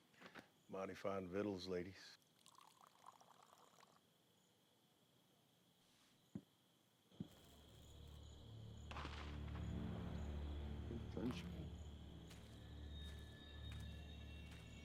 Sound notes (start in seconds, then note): 8.9 gun shoots